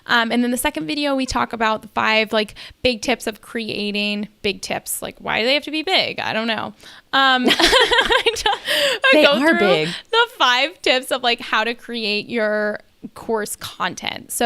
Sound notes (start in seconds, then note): 7.4 laughing